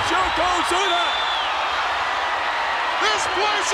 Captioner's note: audience cheers